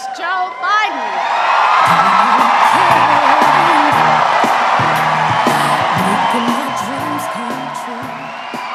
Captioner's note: cheers and applause